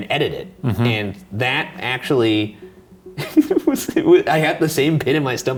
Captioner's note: chuckles